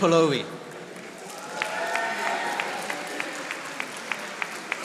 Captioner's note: audience applauding